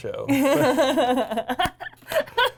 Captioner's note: laughs